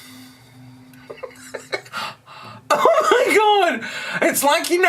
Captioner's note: laughter